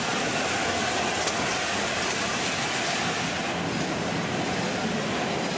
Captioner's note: train passes